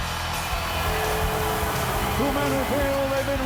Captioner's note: fireworks hissing; fireworks booming